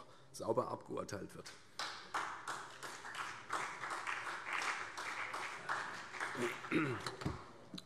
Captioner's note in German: Beifall CDU und vereinzelt BÜNDNIS 90/DIE GRÜNEN